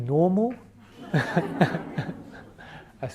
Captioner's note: laughs